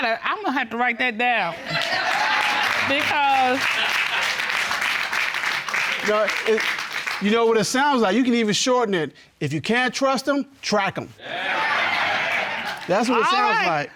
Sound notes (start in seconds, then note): 3.9 audience applauding; 11.2 audience exclaims